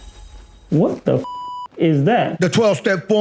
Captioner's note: suspenseful whooshing; beep